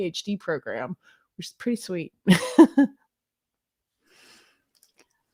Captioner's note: laughs